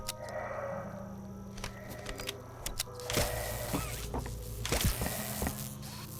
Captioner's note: footsteps